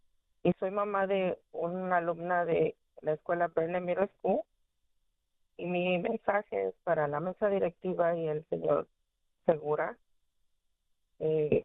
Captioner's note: speaking spanish